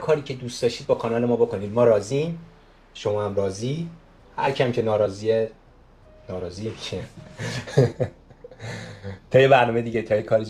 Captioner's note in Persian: خنده